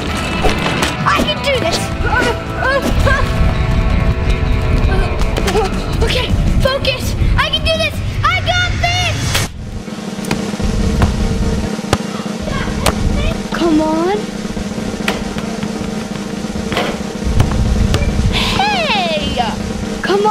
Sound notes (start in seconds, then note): 0.3 air whooshing; 3.0 fast-paced action music; 10.4 drumroll; 14.8 drumroll